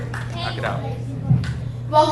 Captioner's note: audience applauds